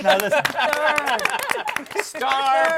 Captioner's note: laughter